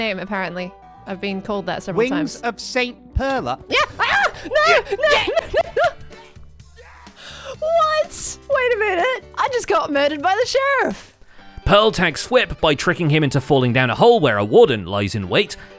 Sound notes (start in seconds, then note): 6.8 giggling